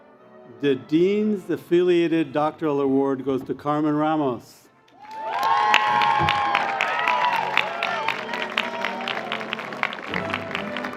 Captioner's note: cheers and Applause